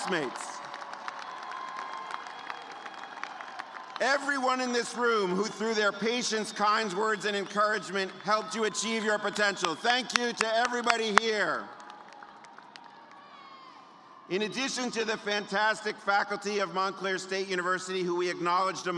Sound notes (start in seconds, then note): 3.0 cheers and applause; 13.1 applause